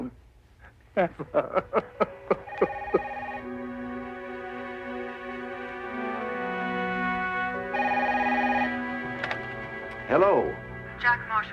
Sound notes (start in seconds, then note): 2.3 telepon berdering